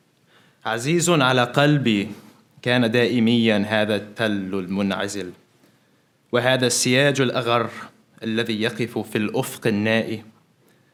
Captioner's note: Arabic translation of L'Infinito is recited